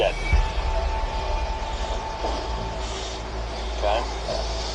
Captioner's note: tense music; heavy breathing; tense music